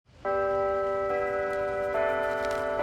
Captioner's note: bells ringing